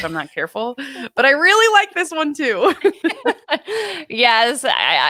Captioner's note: laughs